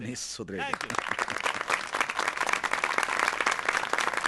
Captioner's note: applause